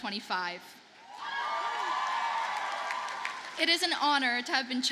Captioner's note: audience cheers and applauds